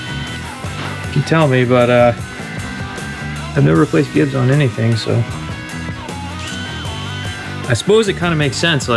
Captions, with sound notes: (drill whirring) He can tell me, but I've never placed gibs on anything, so. (drill whirring) I suppose it kind of makes sense,